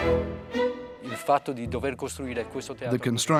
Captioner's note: Italian spoken audio